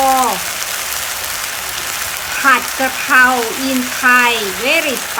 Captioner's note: in Thai language